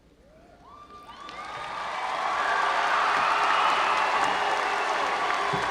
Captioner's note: audience cheering and applauding